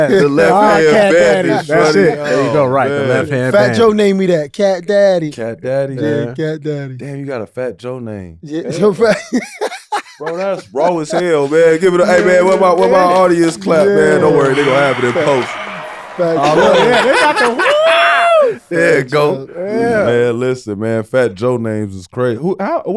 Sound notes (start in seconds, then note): 10.0 Cuttino laughing; 15.5 audience clapping